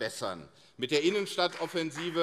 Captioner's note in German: Beifall CDU und SPD